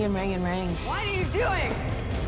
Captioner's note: telephone ringing